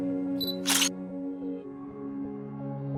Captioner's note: camera shutter sound